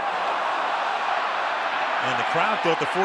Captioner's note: cheering